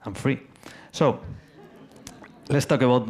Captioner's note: audience laughs